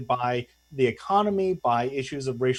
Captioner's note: audio choppy